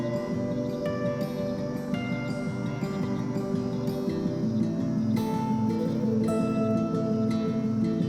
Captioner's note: gusty wind blowing